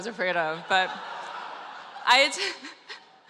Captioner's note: laughter